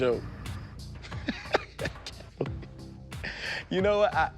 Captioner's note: laughs